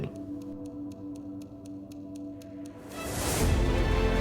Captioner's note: ticking